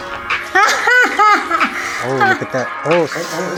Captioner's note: laughs